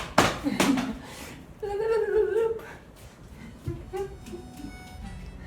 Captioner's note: smacking; making silly noises